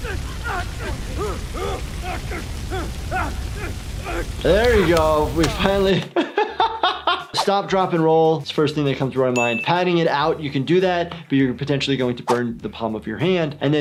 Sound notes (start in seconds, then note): 0.0 intense grunting; 6.7 laughs; 9.4 dings